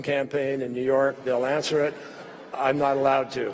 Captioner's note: laughter